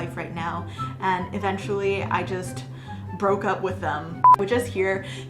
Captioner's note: beep